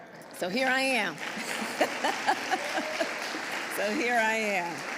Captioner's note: applause